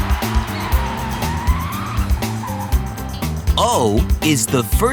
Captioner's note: screeching